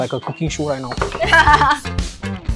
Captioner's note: laughs